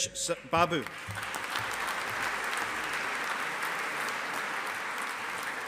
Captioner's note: audience applauding